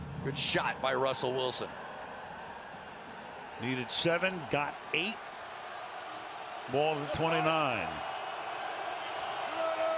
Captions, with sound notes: Wilson will roll back to the 45. And then fires it out of bounds, chased by Everson Griffen. [cheering] I tell you, that is as good a play as you can make.